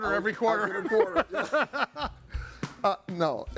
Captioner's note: hosts laughing